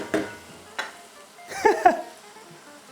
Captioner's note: laughs